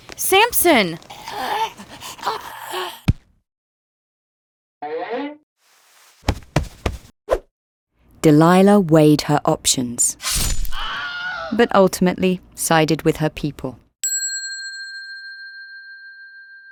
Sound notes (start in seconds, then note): 1.2 man gasping for air; 6.2 hand thudding; 10.2 blade slicing; 10.9 man screaming; 14.0 bell dings